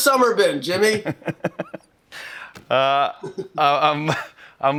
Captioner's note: laughing